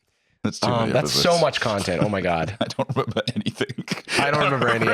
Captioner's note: laughing